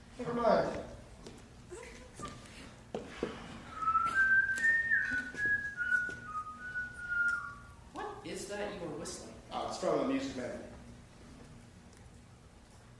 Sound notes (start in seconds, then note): 3.9 siren's Whistle